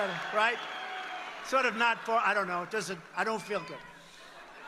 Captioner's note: applause